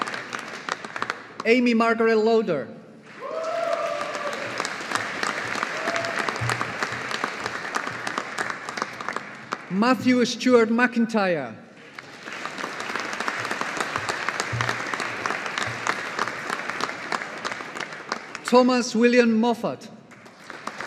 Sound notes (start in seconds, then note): 3.0 audience applauding; 11.8 audience applauding; 20.1 audience applauding